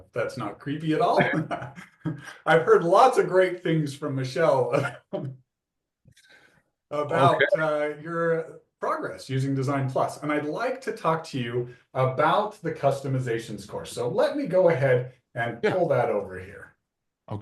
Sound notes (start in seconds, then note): 0.9 laughs; 6.3 laughs